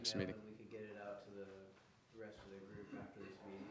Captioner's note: murmuring; murmurs